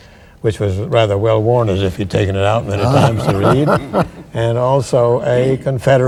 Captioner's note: laughter